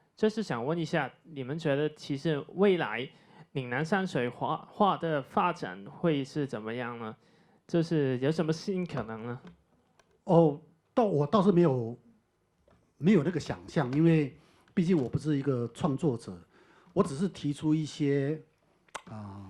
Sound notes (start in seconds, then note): 11.5 Mandarin